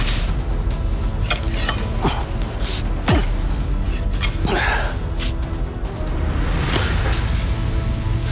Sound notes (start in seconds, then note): 3.0 grunting